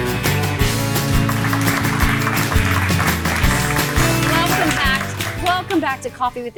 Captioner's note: applause